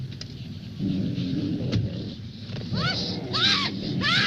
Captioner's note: woman screaming